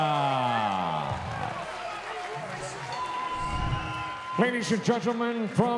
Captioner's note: audience cheering